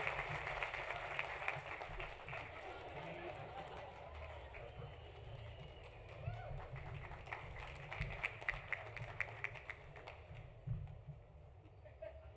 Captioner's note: applause; laughter